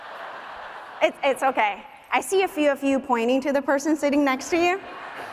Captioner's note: laughter